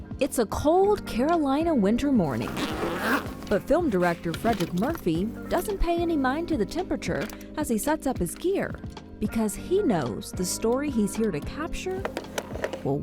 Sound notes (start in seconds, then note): 2.2 zipper zipping